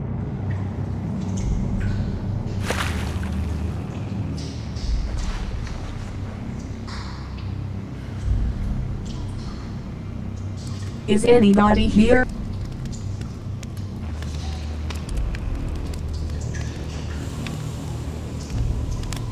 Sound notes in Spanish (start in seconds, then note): 0.6 Salpicaduras de agua; 12.0 Chisporroteos de fogata